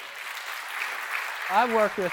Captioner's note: audience applauding